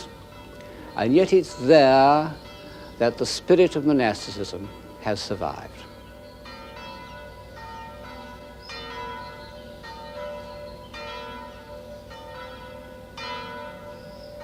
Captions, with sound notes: And yet it's there that the spirit of monasticism has survived. (Bells ring)